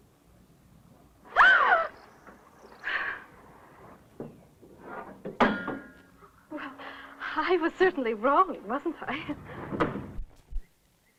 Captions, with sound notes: [ SCREAM OF SCARE ] [ CLANK ] I was certainly wrong, wasn't I?